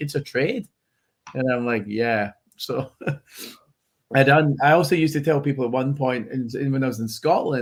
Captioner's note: laughs